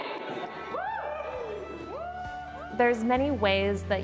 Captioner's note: people cheering